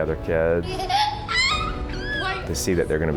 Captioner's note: laughter